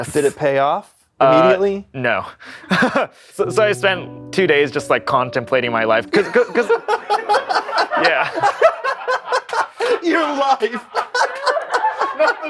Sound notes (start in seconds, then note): 6.1 laughs